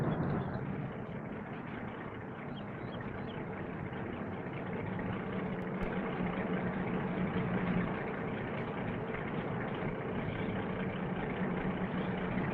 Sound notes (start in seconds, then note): 1.6 birds chirping